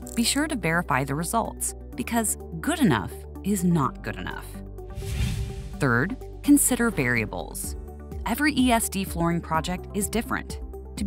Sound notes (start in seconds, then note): 4.9 transition whooshing